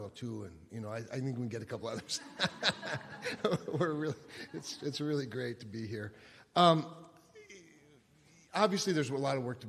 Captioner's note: laughter